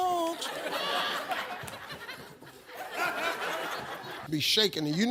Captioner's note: audience laughs